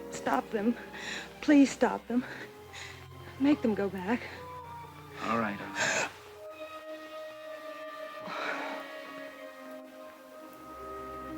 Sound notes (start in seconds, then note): 8.4 Dawn gasps